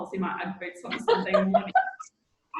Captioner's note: laughing